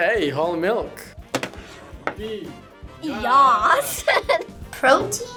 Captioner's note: laughs